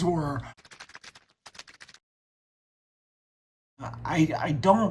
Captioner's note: keyboard typing